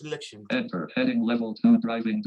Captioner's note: automated Voice